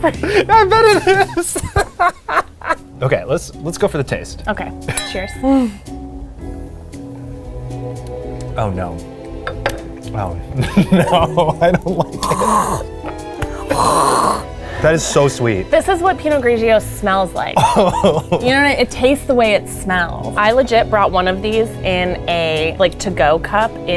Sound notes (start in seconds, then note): 0.0 laugh; 4.8 glasses clinking; 5.9 gentle orchestral music; 13.3 gagging